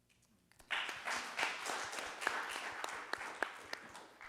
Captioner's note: audience applauding